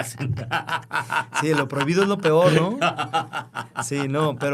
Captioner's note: laughter